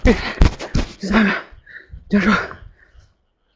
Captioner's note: sounds of exhaustion